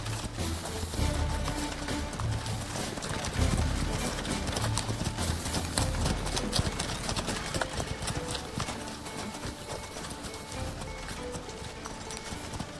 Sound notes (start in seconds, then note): 1.0 lively music continues; 5.3 horse hooves clopping